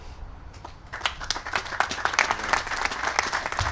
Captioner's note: applause